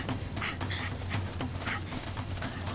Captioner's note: grunting